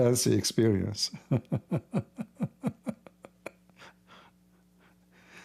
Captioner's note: Ketawa